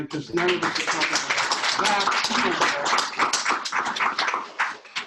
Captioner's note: audience applauds